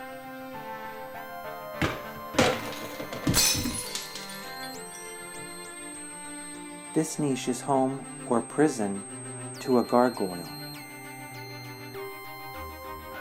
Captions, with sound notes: [toppling, glass breaking] This niche is home — or prison — to a gargoyle.